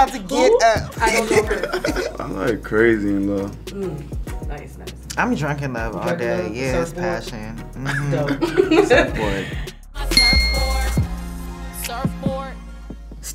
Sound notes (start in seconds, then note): 7.8 laughter